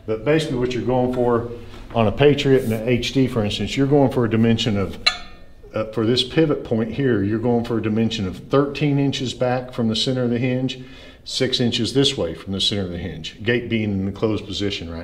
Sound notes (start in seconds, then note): none